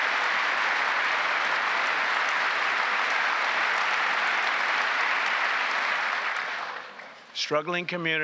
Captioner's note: applause